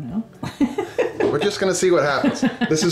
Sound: camerawoman laughing

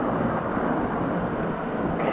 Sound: running water

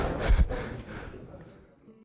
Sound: laugh

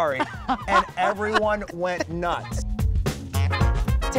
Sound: laughing; jazzy music continues

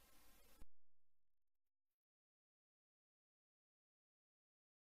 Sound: silence

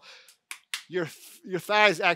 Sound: hands pat thighs

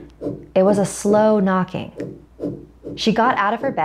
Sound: eerie knocking

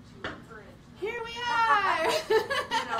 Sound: she laughs

